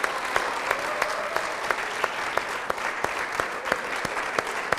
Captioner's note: audience clapping